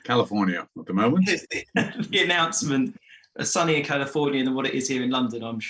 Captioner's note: laughs